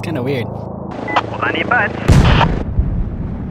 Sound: over comm

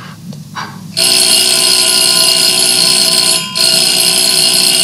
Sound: bell rings

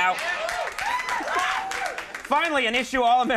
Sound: audience cheering and applauding

